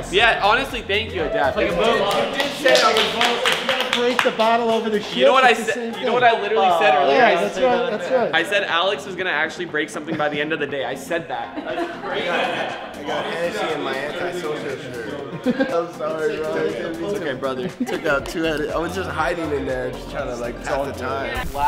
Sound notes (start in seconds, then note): 1.9 clapping